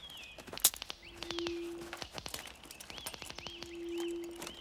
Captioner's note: branches cracking